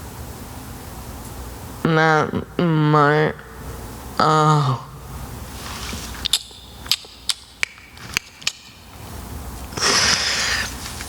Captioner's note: Selma takes a breath